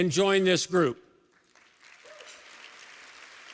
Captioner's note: applause